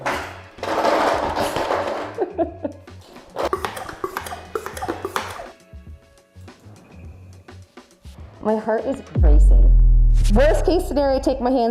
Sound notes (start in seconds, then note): 0.6 machine rattling; 3.0 gadget hissing